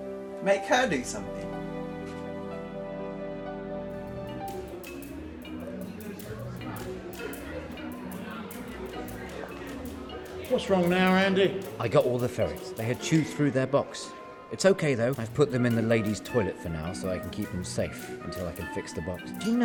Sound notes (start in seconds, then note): 4.3 people chattering; 4.3 playful music